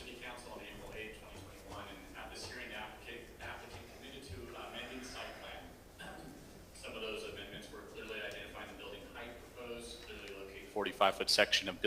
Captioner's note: off microphone